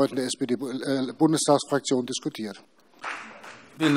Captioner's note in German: Beifall CDU und BÜNDNIS 90/DIE GRÜNEN